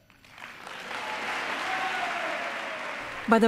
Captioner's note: cheering and applause